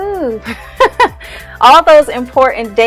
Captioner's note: laughing